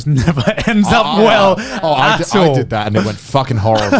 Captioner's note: laughs